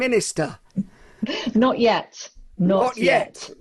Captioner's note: chuckles